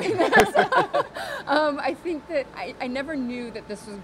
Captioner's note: laughter